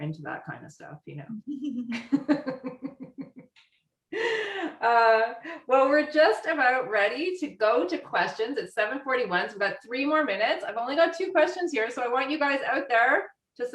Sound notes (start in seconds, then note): 1.5 laughing